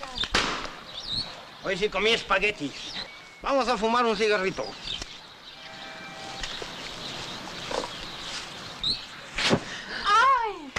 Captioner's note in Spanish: Estallido